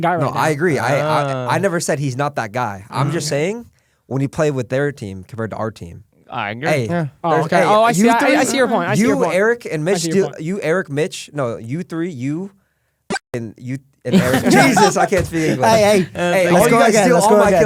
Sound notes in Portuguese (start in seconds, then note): 14.1 risos